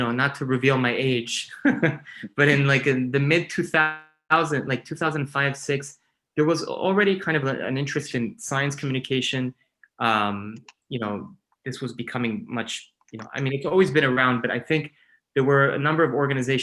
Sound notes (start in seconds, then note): 1.4 laughing